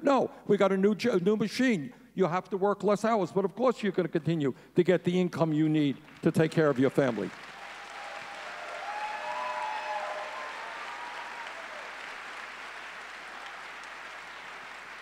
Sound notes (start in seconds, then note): 7.2 audience cheering